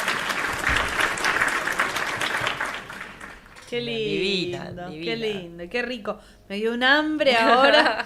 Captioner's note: applause